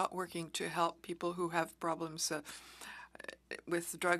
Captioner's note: speaking French